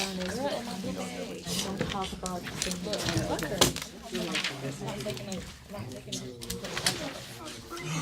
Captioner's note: students murmur